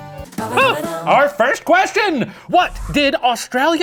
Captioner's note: gasps